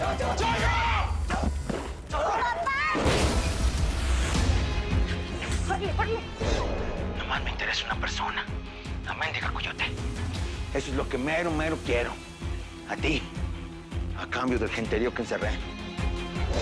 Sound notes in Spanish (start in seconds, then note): 3.0 Estruendo